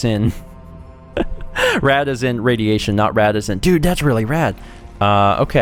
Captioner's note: laughs